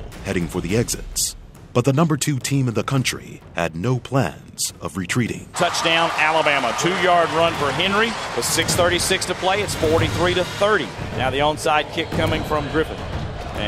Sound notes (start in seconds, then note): 5.6 voiceover